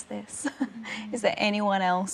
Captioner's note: laughing